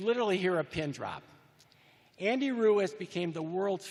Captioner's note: none